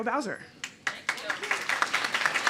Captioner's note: applause